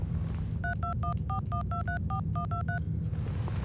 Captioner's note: dial beeping